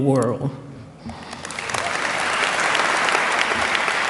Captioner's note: applause